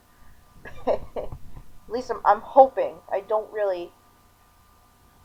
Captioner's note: chuckling